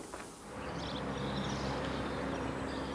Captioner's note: birds chirping